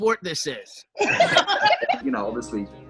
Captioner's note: group laughs